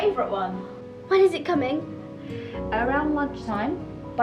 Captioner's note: gasps